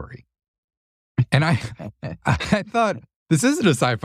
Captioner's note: laugh